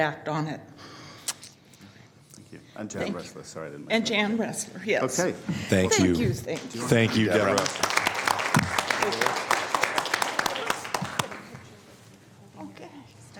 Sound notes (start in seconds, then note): 10.6 applause